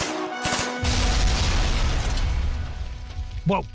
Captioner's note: kaboom!